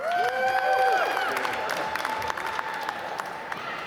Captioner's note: applause